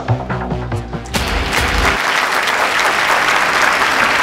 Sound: all clapping

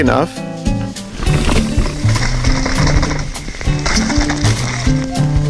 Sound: bike rolling

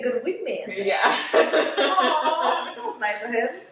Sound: laughs

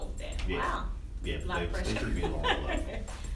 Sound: laughing

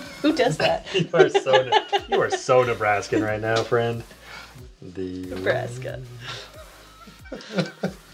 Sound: all laughing

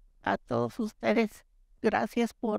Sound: Spanish

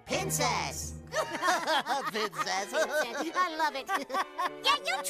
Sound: laughing

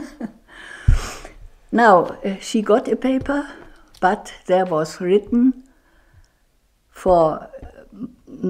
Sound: chuckles

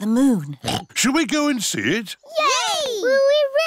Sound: oinks

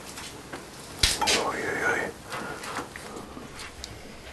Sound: quietly

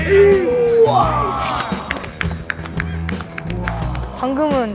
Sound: clap

